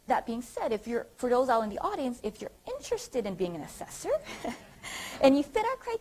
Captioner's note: audience laughter